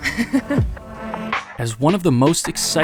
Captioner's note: laughs